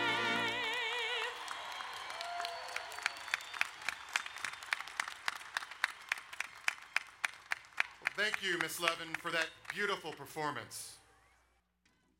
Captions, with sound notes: (crowd cheers and applauds) Thank you, Ms. Levin for that beautiful performance.